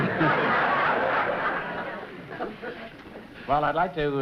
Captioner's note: laughter